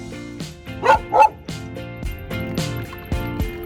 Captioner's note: Camper barking; upbeat music